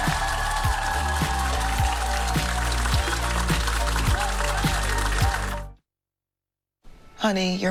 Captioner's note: applause